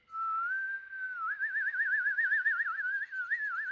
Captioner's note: whistling